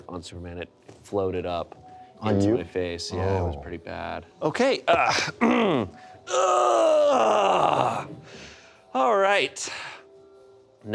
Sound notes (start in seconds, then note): 5.0 clears throat; 6.2 Carlisle groaning